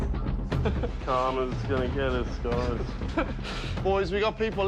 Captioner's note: laughs